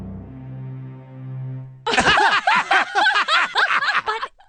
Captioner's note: laughter